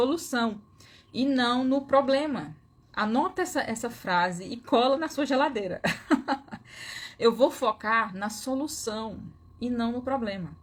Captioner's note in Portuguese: risadas